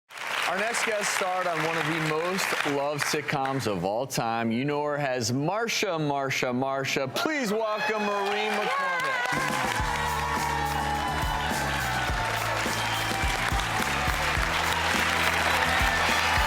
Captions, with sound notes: (audience applauding) - Our next guest starred on one of the most loved sitcoms of all time. You know her as Marsha, Marsha, Marsha. (audience cheers) Please welcome Maureen McCormick. - Yay! (audience applauds and cheers)